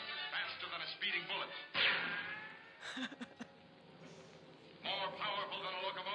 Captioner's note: bullet ricochets